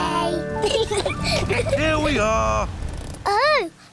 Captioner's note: both laugh